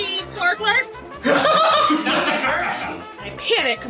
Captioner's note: cackle